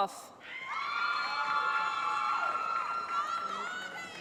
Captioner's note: shouting